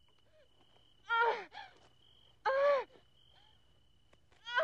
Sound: gasping

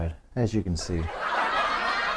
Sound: laughter

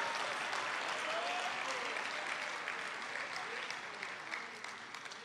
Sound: congregation applauding

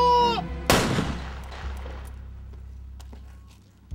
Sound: gun firing

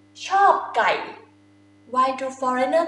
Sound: talking in foreign language

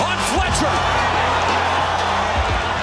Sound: cheering

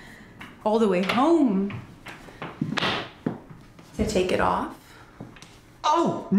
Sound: door closes

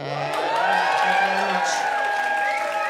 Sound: audience cheers

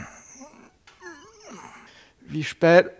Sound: yawn

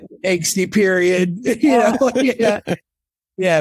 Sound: laughing

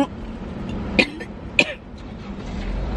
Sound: coughing

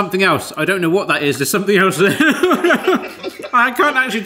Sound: laughs

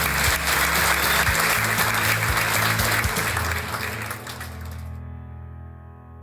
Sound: presentation ends with the sound of audience applause and music

